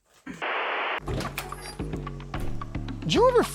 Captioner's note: static crackles; inspirational music playing; machinery creaks